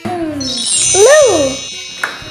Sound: magic wand; carnival music

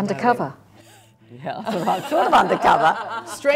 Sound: laugh

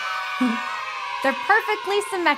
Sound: kids cheering

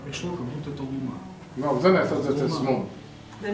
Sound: translator repeating

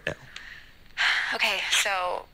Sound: sighing

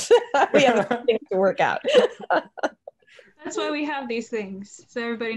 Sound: laugh

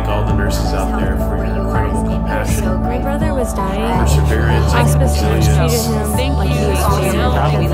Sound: chorus of responses

